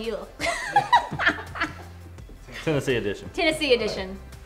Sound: laughing

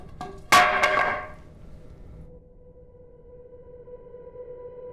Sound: clattering wood; ethereal music

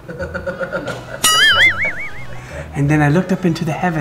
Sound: laughter

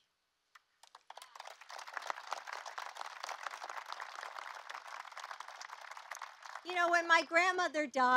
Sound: applause

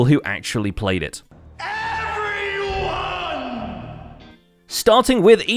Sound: shouting

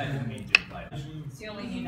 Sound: knife cluck

